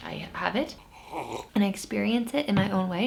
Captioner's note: slurps